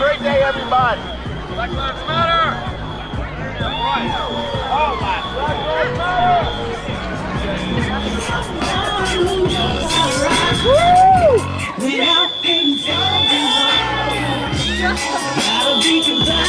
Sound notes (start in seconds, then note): 4.6 upbeat music; 12.8 whistles blowing